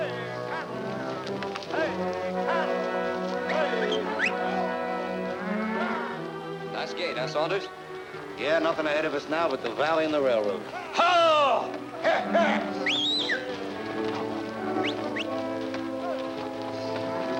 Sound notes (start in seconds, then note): 12.1 Steve shouting and whistling; 14.7 cows mooing